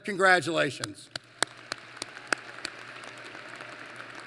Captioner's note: applause